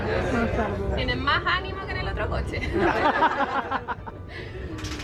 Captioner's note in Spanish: risas